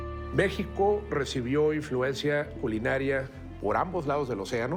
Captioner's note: in Spanish